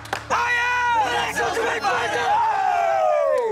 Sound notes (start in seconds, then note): 2.0 cheering